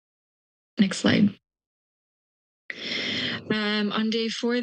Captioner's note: pause; pause